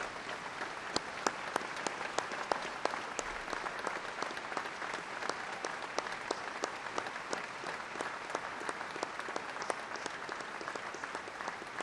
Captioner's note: applause